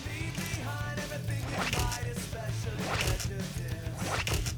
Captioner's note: shutter clicks